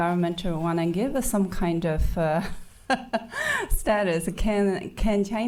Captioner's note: laughing